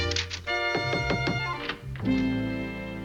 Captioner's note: knocking on the door